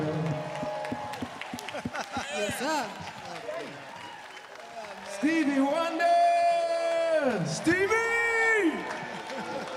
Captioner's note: applause